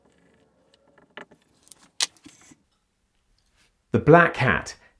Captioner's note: that squeeking noise is his pen - honest